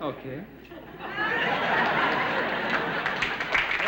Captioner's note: applause